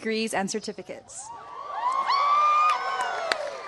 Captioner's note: shouts and applause